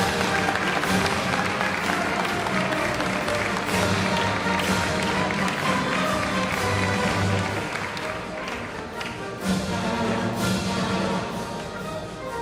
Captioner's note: applause